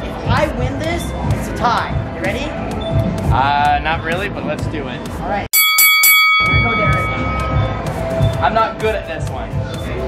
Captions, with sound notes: If I win this, it's a tie. Ready? - Ah, not really, but let's do it. - All right. (bell ringing) - All right here you go, Derek. - I'm not good at this one.